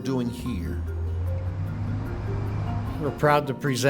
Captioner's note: truck engine humming